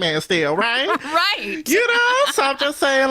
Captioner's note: laughs